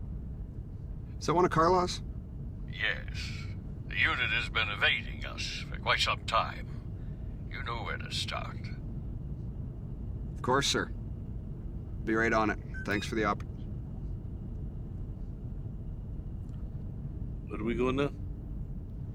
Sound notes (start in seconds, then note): 12.4 vehicle droning; 12.7 phone beeping